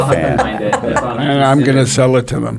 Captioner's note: laughing